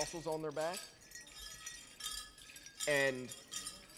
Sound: regalia ornaments jingling

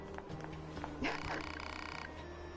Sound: laughs

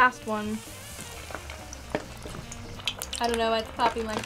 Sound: oil crackling

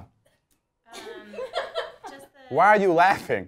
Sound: laughing

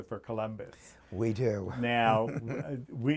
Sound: chuckles

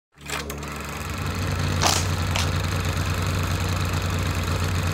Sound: motor running

